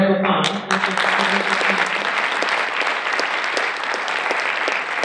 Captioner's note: audience applauding